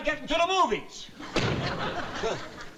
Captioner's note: door slamming